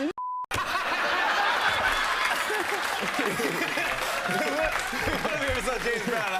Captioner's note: laughter, applause